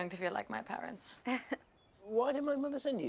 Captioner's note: laughing